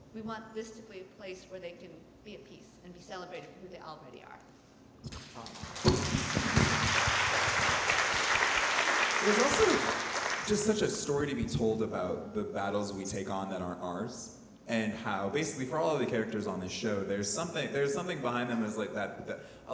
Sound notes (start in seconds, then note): 5.0 audience clapping